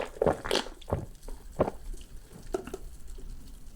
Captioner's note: sipping